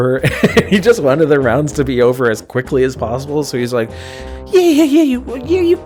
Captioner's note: chuckles